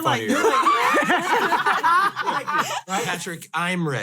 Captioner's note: all laugh